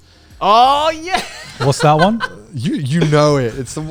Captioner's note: laughing